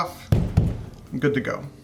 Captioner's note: pounding